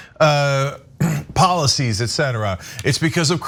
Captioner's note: cough